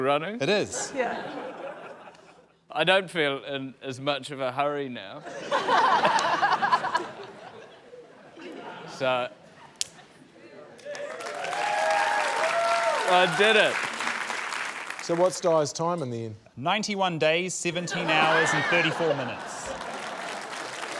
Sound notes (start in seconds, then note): 5.2 laughter; 9.8 snap!; 10.8 cheering, applause; 17.9 laughter, applause